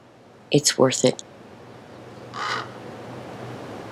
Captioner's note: crows chirping